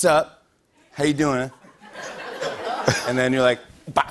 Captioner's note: laughter